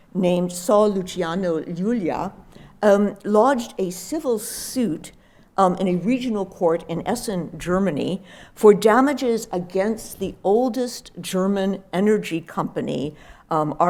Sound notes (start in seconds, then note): none